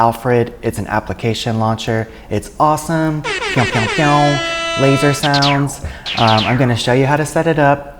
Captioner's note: pew pew pew